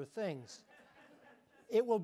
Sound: audience laughing

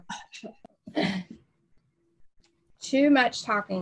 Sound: mimics coughing

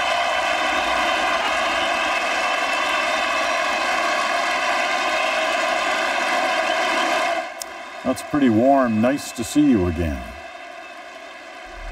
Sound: cheers and Applause

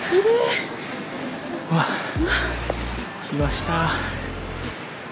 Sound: shortness of breath lol

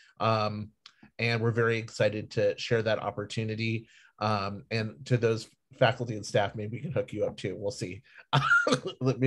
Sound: laughs

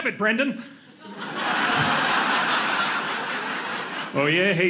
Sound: audience laughing

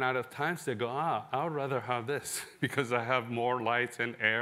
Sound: laughter

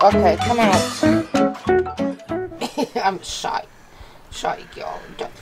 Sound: laughs

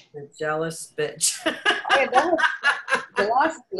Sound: laughs

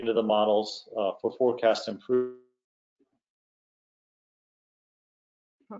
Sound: sound cuts out

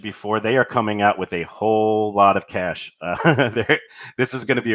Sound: laughs

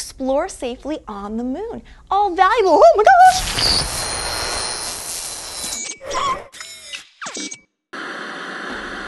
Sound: sound effect of ripping noise

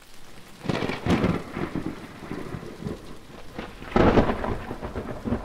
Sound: thunder cracking

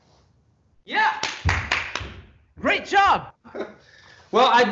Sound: applauding

